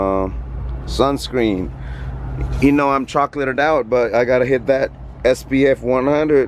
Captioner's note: none